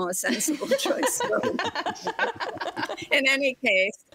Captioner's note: group laughs